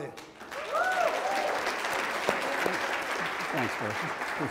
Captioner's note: speaks in Spanish; audience applauds